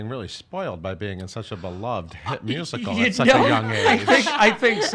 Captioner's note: laughing